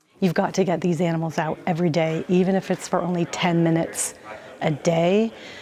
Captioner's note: none